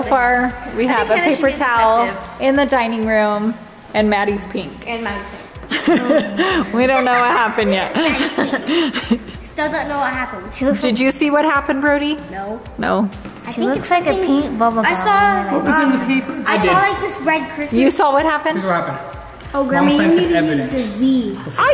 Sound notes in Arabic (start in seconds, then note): 5.9 ضحكات خافتة من الكريستال